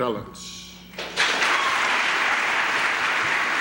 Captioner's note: applause